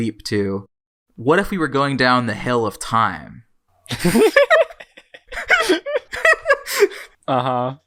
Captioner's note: both laugh